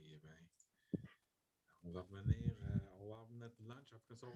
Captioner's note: foreign language